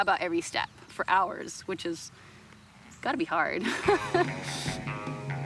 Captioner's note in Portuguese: riso